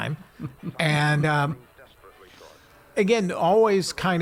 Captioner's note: laughing